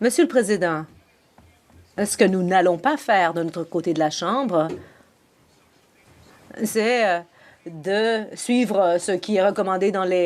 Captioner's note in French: voix de l'interprète